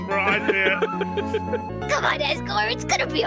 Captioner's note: laughs